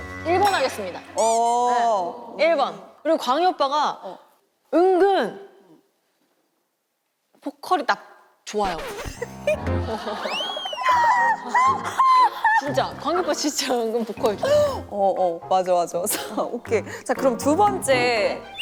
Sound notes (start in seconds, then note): 9.1 failed to hold her laughter